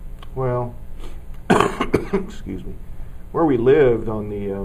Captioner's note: cough